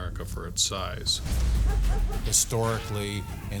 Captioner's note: dog barking